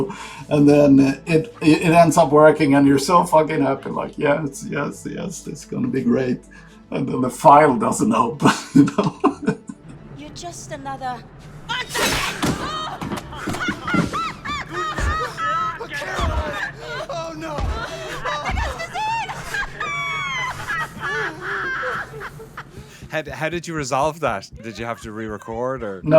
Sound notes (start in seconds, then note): 12.7 screams; 14.8 laughs; 16.1 cries; 20.3 laughs